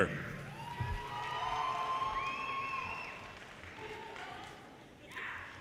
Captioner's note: audience cheers and applause